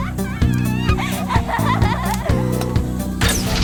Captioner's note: distant hysterical laughing; rocket launcher fires